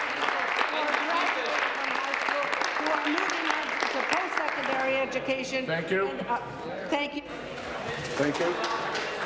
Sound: applause

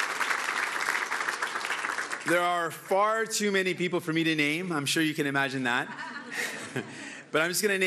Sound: cheering

